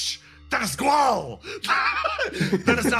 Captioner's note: laugh